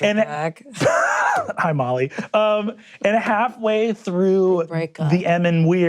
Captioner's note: laughs